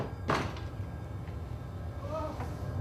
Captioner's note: knock on door